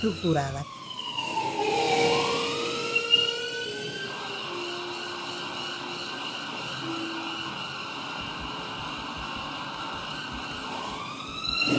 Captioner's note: viento y sirenas; wind and sirens